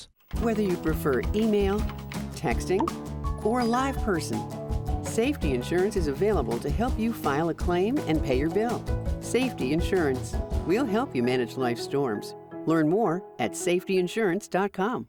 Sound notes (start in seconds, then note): 2.7 cellphone chirps; 2.7 cellphone rings